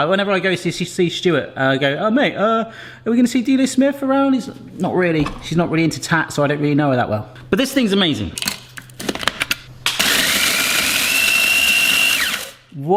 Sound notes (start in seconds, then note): 8.4 cracking; 9.9 blender whirring